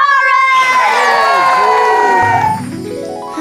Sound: crowd cheering

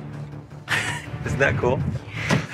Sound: giggles

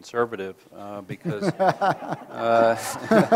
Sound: moderator laughs

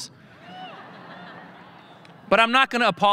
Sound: audience laughing

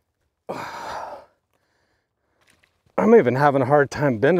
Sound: grunting

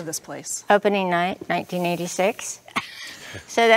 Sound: laughs

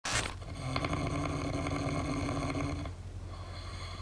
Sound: snoring

